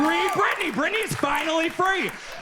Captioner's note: audience cheers